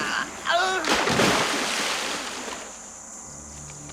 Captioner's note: groans; water Splashes